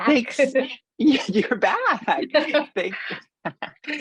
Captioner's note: laugh